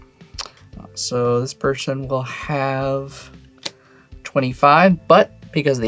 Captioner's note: card slaps